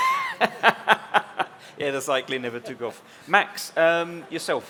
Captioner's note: laughs